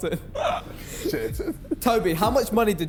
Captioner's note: Tobi laughing; laughs